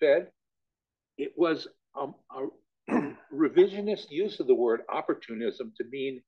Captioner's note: cough